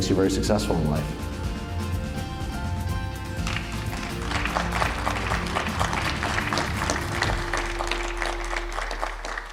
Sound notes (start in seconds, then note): 1.4 upbeat music; 3.4 applause